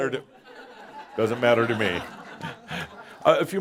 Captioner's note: more chuckles